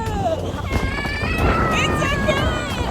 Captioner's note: screaming